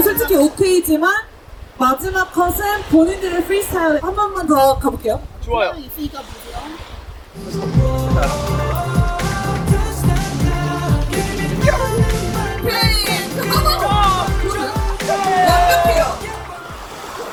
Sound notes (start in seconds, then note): 6.6 confident